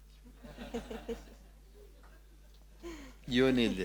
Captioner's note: audience laughing